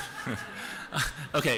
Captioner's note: laughter